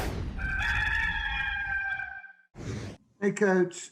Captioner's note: rooster crows